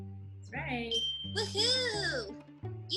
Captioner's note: bell dings